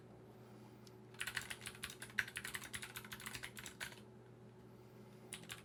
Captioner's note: computer keys clicking